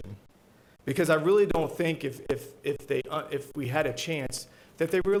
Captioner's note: stutters